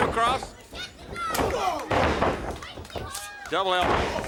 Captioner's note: body thudding; wrestlers grunting